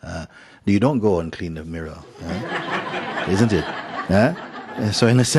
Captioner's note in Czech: Smích